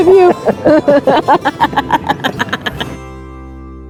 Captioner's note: both laughing